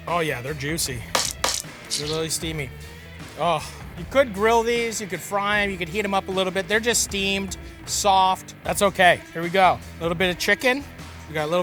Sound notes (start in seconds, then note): 3.5 sniffs